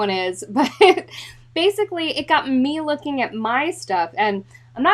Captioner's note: chuckles